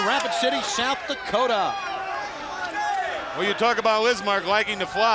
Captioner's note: crowd chatter